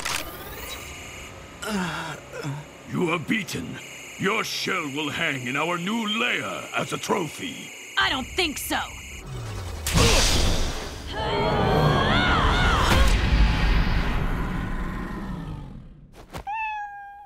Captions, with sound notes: [groaning] You are beaten. Your shell will hang in our new lair as a trophy. I don't think so. [grunting] [meowing]